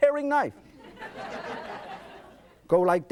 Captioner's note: audience laughs